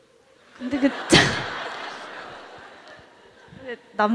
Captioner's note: questioner/Audience Laughter